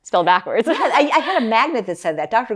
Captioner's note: laughs